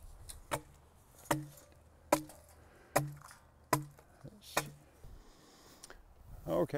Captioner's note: hollow chipping sounds